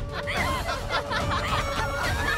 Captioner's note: laughing